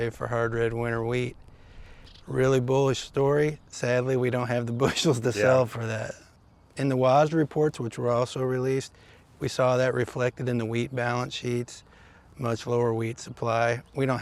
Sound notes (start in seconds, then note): 4.8 chuckles